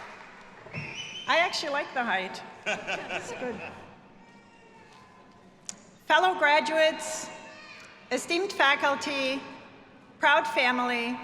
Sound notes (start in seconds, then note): 2.6 laughs